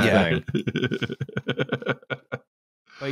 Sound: chortles

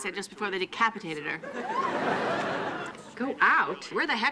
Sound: audience laughing

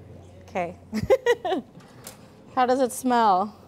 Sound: chuckles

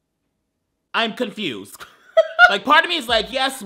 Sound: laughing

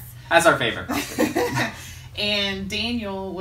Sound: laughing

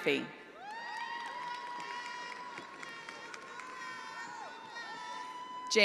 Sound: attendees applauding

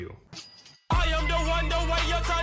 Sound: cash register rings

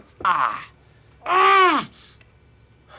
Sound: grunts

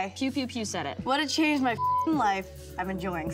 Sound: beep

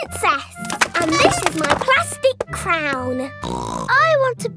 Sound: snorts

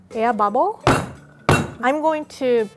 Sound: metal clinks

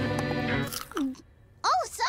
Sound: crunching sound

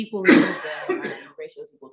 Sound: participant coughing

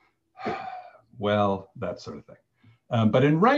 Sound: imitates Roberta exhaling

